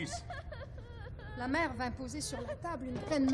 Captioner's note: MarIene crying